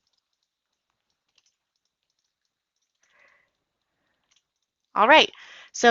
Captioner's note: typing